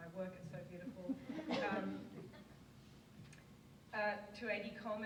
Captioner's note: audience laughs